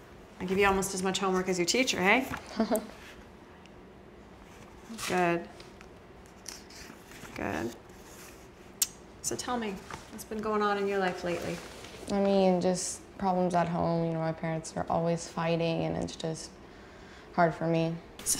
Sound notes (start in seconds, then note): 2.4 Sarah laughing